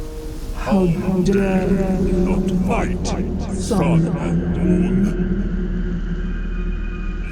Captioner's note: godly voice